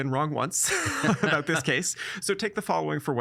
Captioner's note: laughing